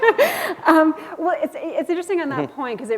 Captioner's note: chuckle